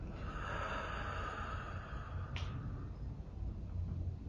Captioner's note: exhales